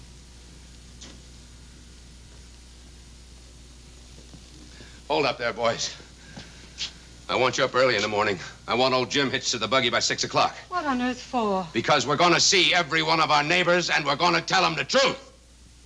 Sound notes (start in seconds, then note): none